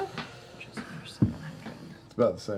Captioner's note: whispers